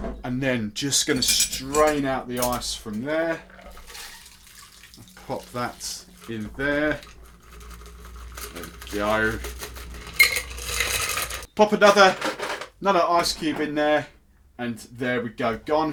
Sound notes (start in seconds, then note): 3.7 drink splashing; 10.3 ice rattling